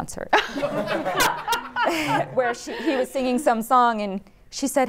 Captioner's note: laughter